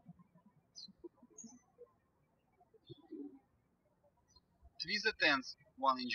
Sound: birds chirping

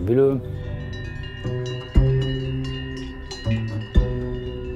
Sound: bells jangling

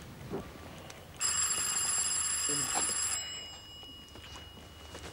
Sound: doorbell

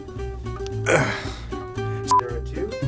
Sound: grunts

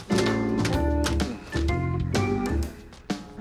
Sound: exhales

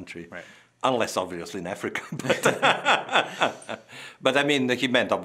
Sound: both laughing

